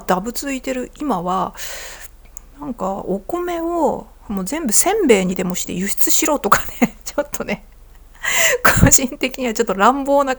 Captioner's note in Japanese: 笑い